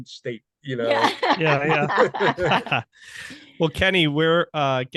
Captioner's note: laughing heartily